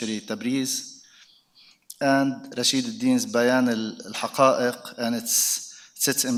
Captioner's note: speaks in foreign language